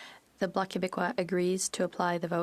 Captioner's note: speaking French